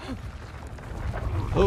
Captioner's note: rock person rumbling